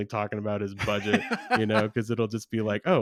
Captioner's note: laughs